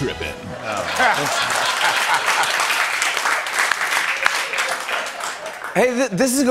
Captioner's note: laughter and applause